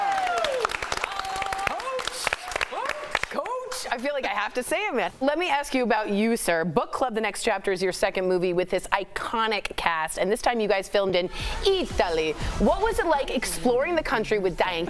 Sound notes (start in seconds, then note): 4.4 applause